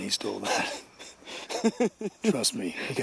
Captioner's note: Barry laughs